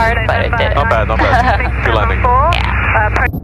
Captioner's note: chuckling